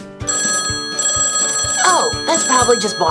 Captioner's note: phone ringing